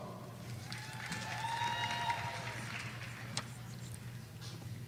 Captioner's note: audience applauding